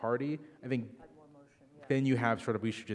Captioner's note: speaking faintly